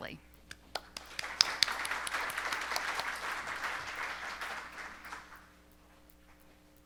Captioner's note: applause